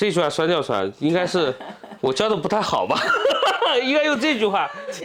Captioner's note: laughs